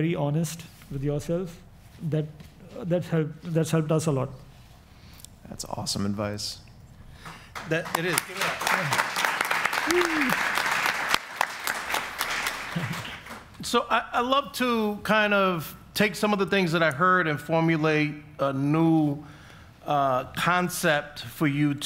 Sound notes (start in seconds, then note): 7.2 audience applauds